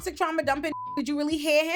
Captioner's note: beep